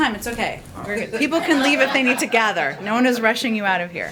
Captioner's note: laughter